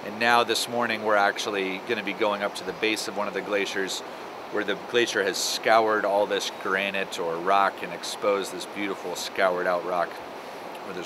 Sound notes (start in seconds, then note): none